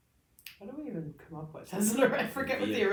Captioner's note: laughs